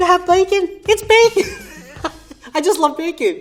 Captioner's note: laughs